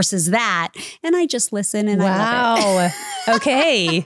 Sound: laughing

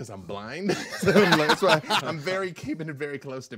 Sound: group laughing

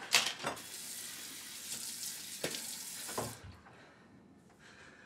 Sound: water running

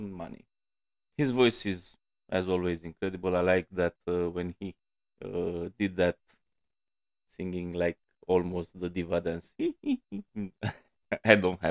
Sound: noises that sound funny coming out of my mouth

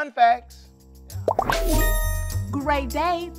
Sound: alert chimes

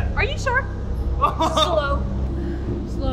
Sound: laughing

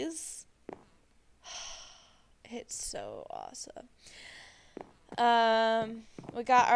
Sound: sigh

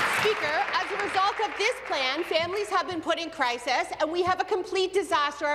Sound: applause

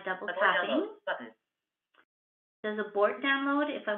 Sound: VoiceOver voice

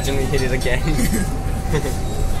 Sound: chuckles; pegion Chuckles

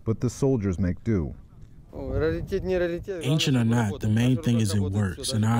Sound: through translator

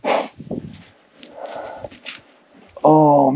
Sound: sniffs

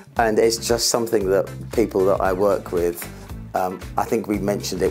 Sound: none

